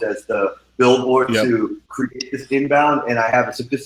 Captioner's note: sound distorted